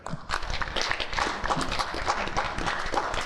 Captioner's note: applause